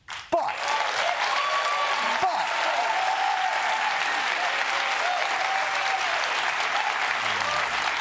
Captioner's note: cheering, applause